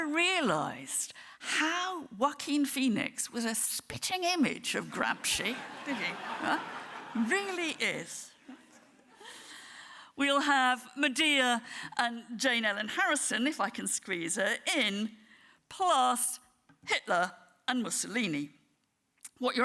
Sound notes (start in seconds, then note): 5.2 audience laughing